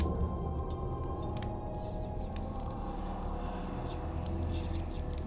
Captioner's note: eerie music plays; fire crackling